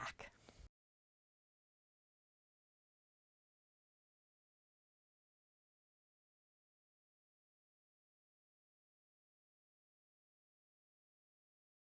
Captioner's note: no Sound Present